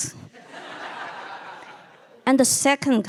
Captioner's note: audience laughing